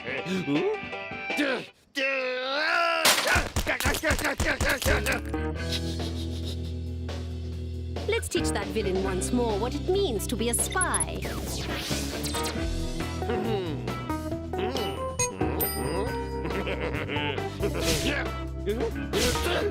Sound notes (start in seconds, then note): 0.2 country music; 2.0 groans; 3.7 shouting; 5.7 titters; 13.2 mutters; 16.0 chuckles wickedly